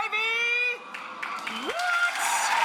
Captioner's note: audience cheering and applauding